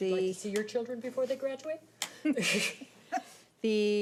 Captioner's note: laughs